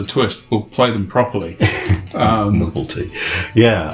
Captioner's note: laughs